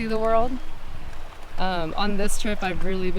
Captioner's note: water churns